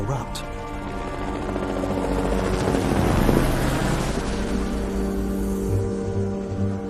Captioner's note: tense music; helicopter thrumming